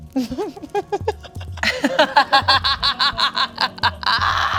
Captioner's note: Bug and Delores laughing